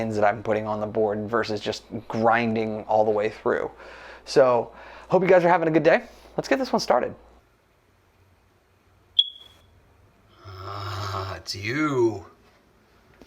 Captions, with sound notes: that I'm putting on the board versus just grinding all the way through. So, hope you guys are having a good day. Let's get this one started. (high-pitched beep) (growls) It's you.